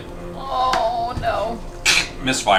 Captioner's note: groans